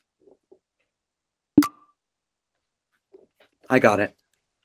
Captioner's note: blip